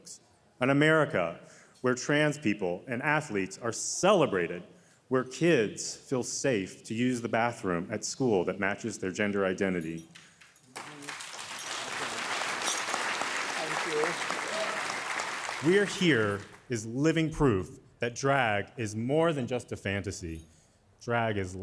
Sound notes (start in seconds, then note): 10.6 audience applauding